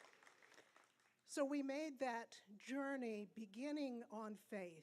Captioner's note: applause